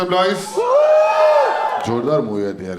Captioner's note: crowd applauding